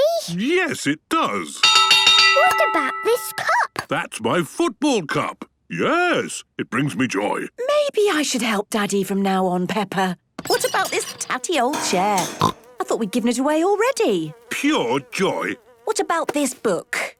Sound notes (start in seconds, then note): 1.6 clanging; 12.2 snorting